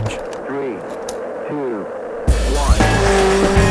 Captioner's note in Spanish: Voz en off